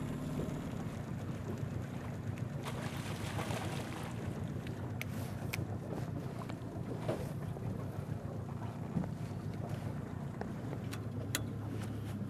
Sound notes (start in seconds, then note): 2.6 fish splashing; 6.2 boat engine running